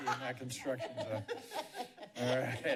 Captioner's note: laughs